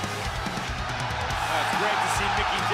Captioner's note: crowd cheering